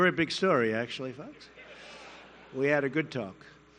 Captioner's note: laughter